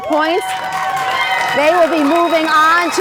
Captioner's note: crowd cheers